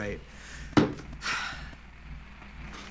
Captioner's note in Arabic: زفير عميق